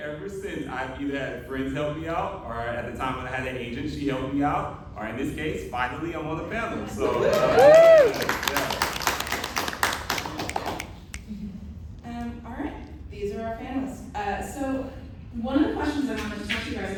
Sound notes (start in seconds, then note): 11.5 cheers